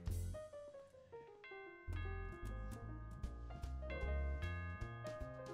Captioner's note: doorbell ringing